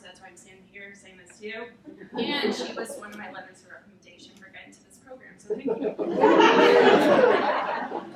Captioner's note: audience laughing